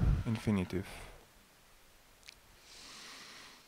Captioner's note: exhale sound